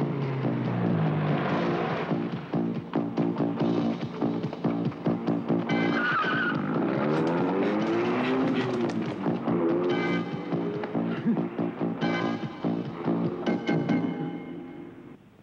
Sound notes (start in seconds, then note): 0.3 energetic, suspenseful music; 6.2 engine rumbling; 6.2 wheels screech; 11.2 energetic, suspenseful music